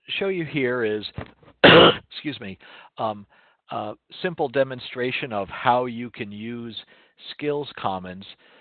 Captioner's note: cough